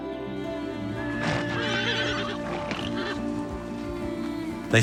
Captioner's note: horses neighing